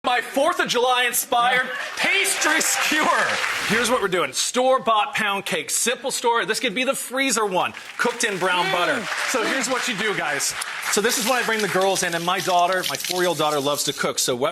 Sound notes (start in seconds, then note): 1.5 audience applauds; 10.1 audience applause